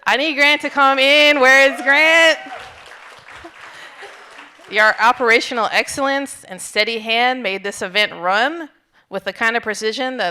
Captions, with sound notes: I need Grant to come in, where is Grant? (audience applauding) Your operational excellence and steady hand made this event run with the kind of precision